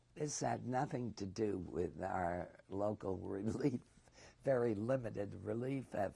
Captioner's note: laughs